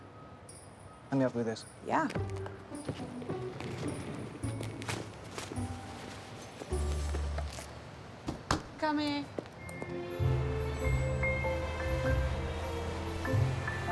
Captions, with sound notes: - Thank you. - Let me help you with this. - Yeah. (jaunty Christmas music) (door banging) I'm coming. (gentle Christmas music)